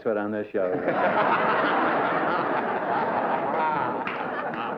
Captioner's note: laughter